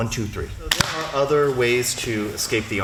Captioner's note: clap